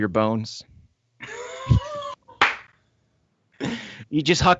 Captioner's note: all laughing